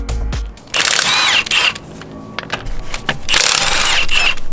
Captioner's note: drill buzzes